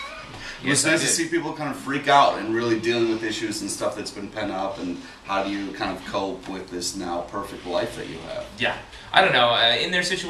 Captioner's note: laughs